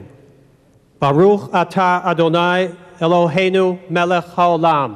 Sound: speaking hebrew

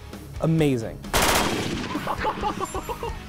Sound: gunshots; laughter

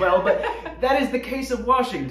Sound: laughing

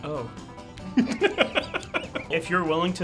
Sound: laughing

